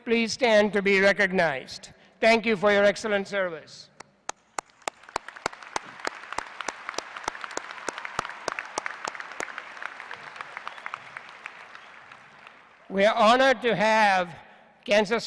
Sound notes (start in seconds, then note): 4.2 applause